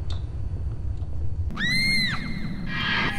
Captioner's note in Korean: 꺄아아악 효과음